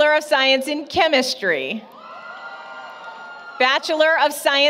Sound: applause, Cheering

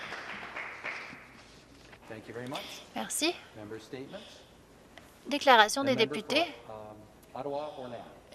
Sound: applause

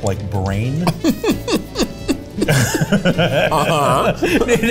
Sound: laughs

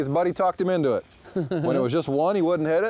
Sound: laughs

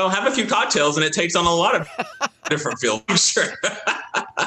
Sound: laughing

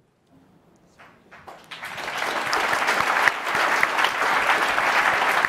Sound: audience applauding

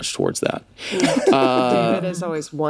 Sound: all laugh

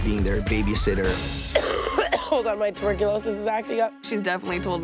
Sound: coughs

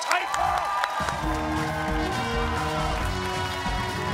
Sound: cheers and applause

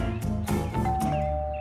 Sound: doorbell

